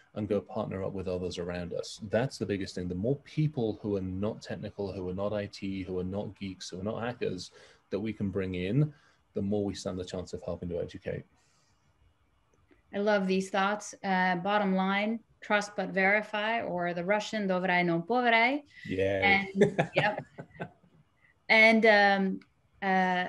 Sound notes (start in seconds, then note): 17.6 speaking in foreign language; 18.9 laughs